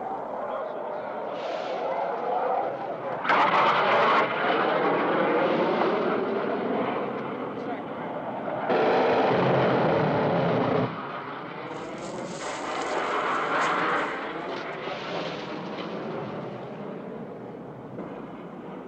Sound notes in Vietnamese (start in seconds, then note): 1.2 Tiếng máy bay phản lực bay qua